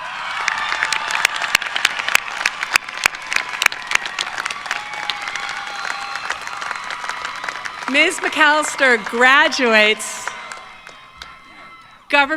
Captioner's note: cheers and applause